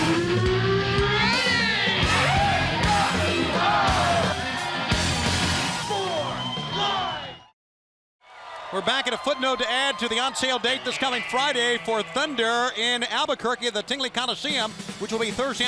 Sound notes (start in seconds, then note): 9.0 crowd cheering